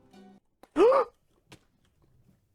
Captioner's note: gasp